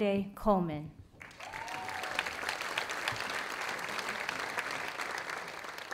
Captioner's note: audience applauding